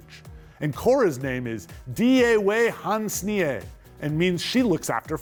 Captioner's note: speaking Haudenosaunee